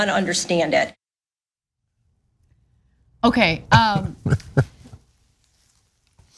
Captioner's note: laugh